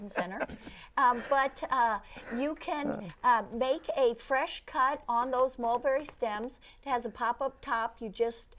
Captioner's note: laughing